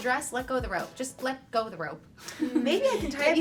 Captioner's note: laughs